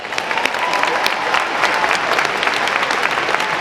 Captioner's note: audience applauding